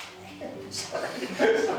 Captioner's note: chuckles; all chuckling